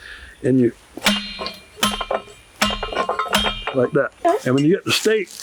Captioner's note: thumping noises